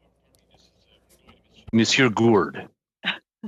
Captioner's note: speaking french